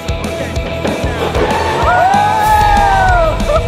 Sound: tires screeching

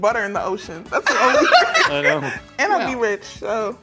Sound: laughing

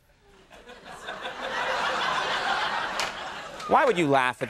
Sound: crowd laughs

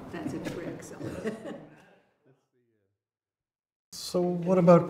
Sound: laughs

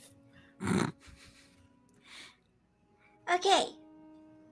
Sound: laughs

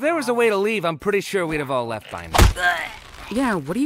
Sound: groans

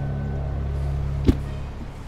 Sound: light thump

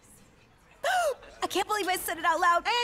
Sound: gasps

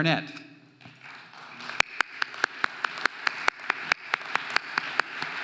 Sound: audience applauding

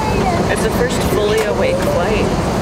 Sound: murmuring

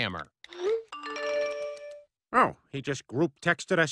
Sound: phone chimes

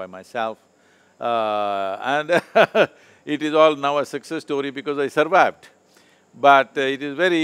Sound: laughs

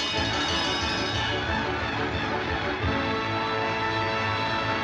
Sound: laughter and applause

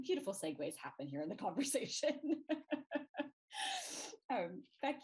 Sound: laughs

